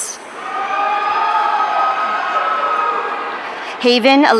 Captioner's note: audience cheering